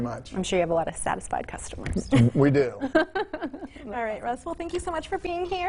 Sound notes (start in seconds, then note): 3.2 host laughs